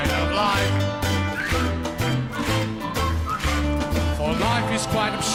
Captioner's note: whistles